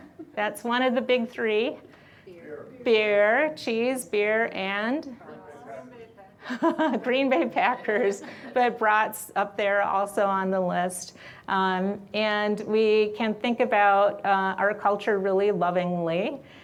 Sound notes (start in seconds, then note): 6.4 laughs